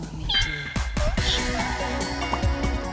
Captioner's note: squeaking sounds; upbeat electronic music